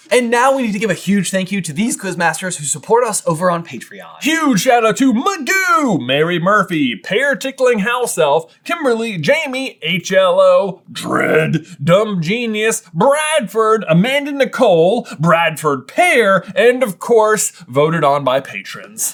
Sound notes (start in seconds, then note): none